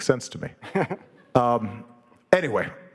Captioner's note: Dave laughing